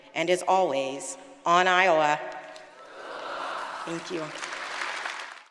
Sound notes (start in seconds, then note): 2.8 audience applauding